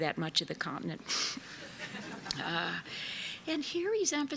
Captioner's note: laughter